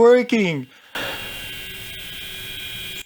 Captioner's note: buzzing noise